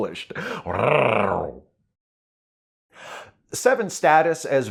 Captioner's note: sexy growl